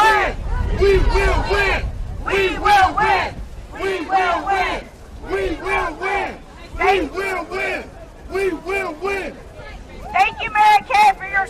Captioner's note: chanting; chanting